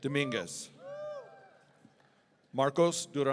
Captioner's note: audience cheering